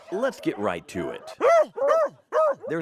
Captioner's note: beagles barking